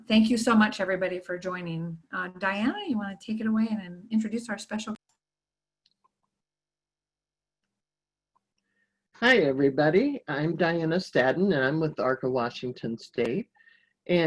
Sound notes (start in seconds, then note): 5.0 audio cuts out